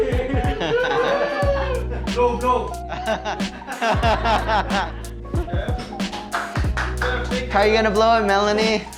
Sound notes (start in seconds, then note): 0.0 invitees ululating, clapping and laughing; 3.1 invitees laughing; 6.0 clapping